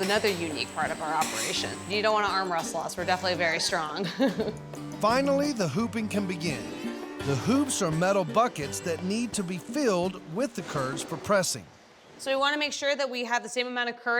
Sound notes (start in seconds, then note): 3.9 laughing